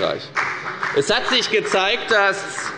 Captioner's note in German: Beifall bei der FDP